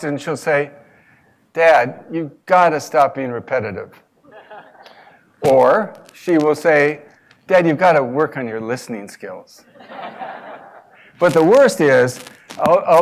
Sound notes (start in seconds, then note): 4.3 laugh; 9.8 laugh